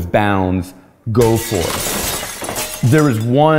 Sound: glass shattering

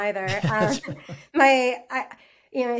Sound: both laugh

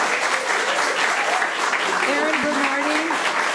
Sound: audience applauding

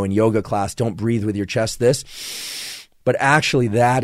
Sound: inhales deeply

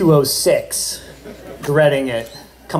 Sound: laughter

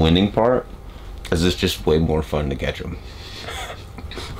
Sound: laughs

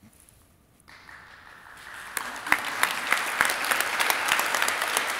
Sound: audience applauding

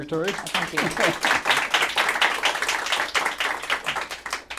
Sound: applause

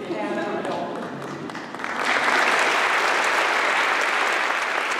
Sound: applause

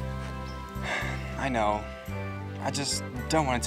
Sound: sighs

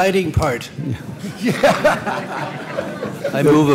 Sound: laughter

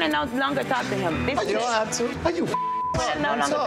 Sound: beep

